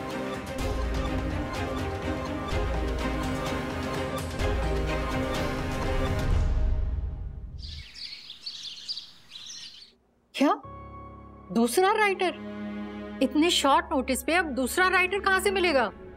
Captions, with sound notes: [intense music playing] [birds chirping] What! Another writer! How will we find another writer on such short notice?